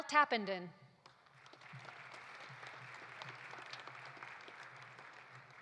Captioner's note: audience applauding